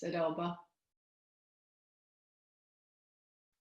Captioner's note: silence